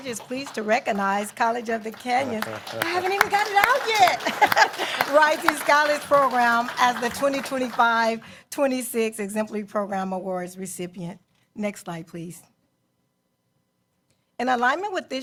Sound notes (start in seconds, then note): 4.1 applause